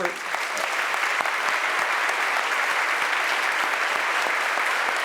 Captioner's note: audience applauding